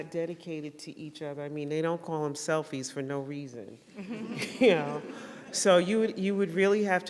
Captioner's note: laughter